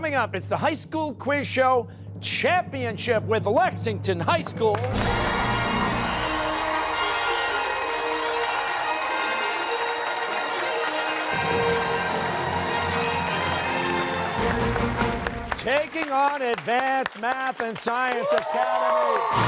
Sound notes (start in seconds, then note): 5.0 applause